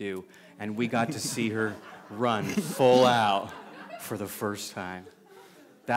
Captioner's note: laughter